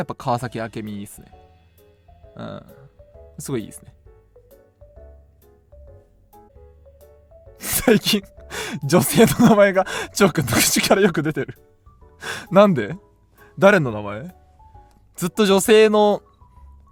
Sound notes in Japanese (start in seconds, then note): 8.6 笑い